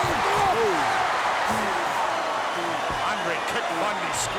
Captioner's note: crowd cheering